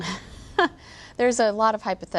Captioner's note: laughs